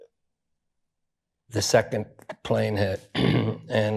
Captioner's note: clears throat